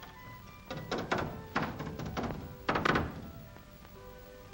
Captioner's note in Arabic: ضربات المطرقة